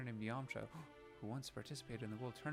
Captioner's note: gasp